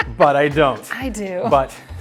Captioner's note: laughing